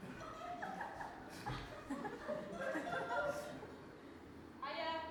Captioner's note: audience laugh